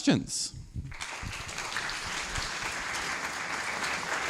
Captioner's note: applause